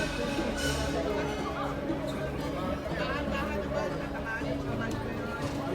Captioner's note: crowd speaking in foreign language